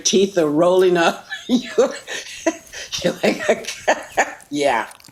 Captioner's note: laughing, stammering